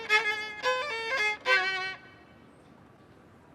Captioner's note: music stops